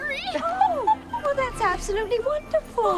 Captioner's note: Melinda laughs